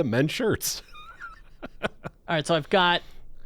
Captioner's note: laughs